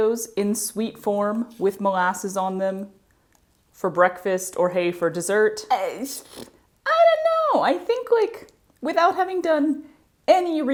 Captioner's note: mouth noises